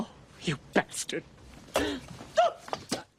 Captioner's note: shrieks